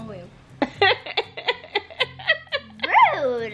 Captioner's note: laughs